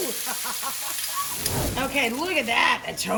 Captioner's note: laughs